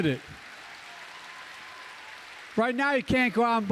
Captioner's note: applause